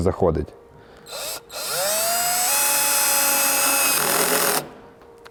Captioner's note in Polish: dźwięk wkrętarki